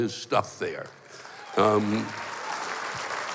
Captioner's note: cheering and applause